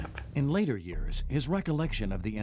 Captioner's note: voiceover